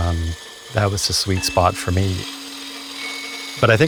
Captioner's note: lathe whirring